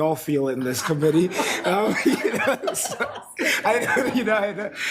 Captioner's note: members laughs